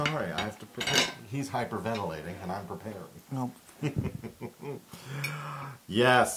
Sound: laugh

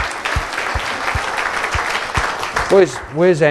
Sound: applause

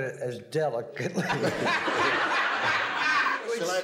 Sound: laughter

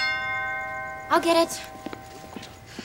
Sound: doorbell rings

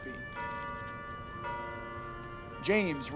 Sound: bell ringing

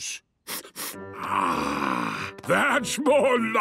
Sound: sniffs

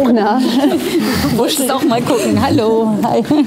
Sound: fans talking

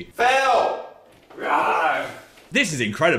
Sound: Phil roars

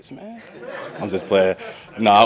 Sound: everyone laughs

